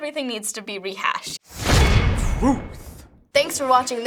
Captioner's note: clang!